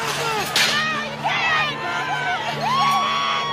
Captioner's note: cheering